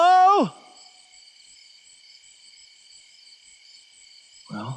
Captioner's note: crickets chirping